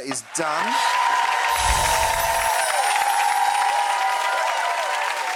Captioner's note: audience applauding